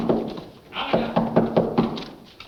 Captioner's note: knocking